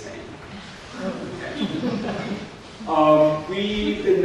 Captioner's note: scattered laughter